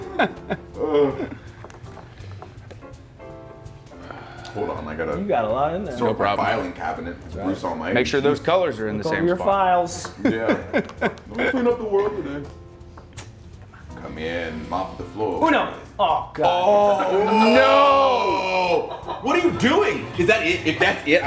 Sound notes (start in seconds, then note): 0.0 laugh; 16.8 laugh